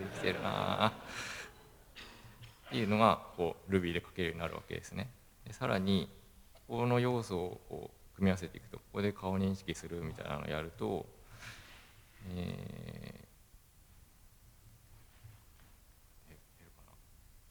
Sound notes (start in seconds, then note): 3.2 laugh